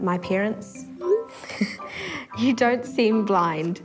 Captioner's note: laughter